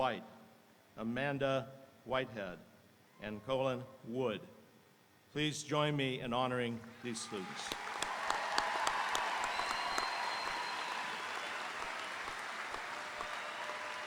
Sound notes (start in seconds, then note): 6.9 audience applauding; 6.9 audience cheering